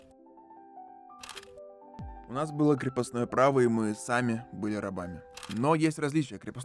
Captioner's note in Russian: звук затвора фотоаппарата